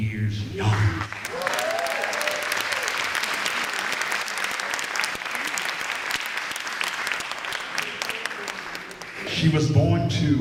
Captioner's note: applause and Cheering